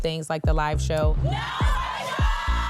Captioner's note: crowd